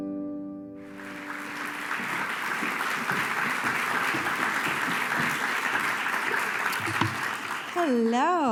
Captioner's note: applause